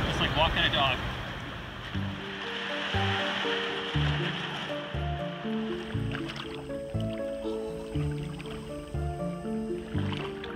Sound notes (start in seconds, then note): 2.7 water splashing; 6.7 gentle music; 6.7 water trickling